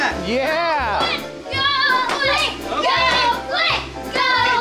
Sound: children yelling

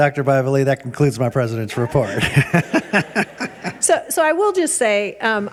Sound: laughs

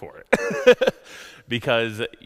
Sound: laughs

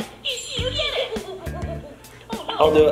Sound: monkey hoots

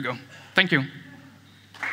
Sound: applause

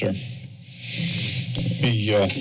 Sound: breaths deeply

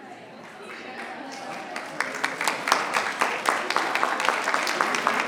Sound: audience applauding

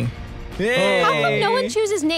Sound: cheers

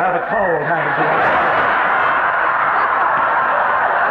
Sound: audience laughing

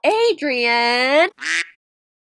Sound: quack

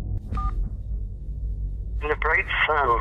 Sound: beep

